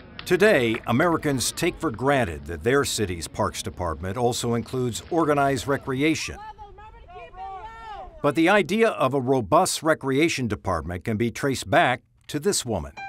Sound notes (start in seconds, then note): 6.5 players yelling